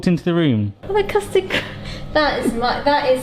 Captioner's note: laughs